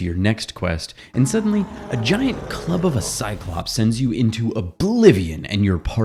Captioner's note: Cyclops Roar